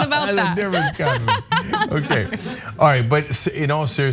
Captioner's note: laugh